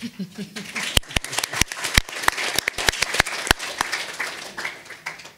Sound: audience applauding

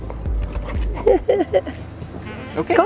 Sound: chuckling

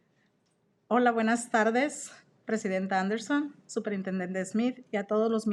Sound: speaks in Spanish

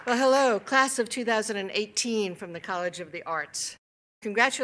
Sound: applause

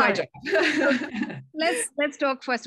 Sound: laughter

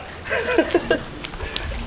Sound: laughing

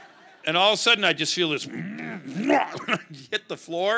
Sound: crowd laughing; retching

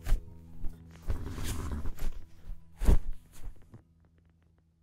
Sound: sheets rustle

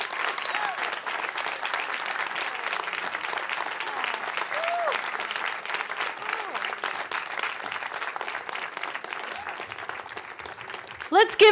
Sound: cheering

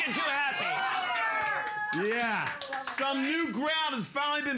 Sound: cheers and applause

